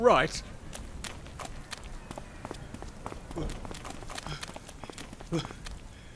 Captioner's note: panting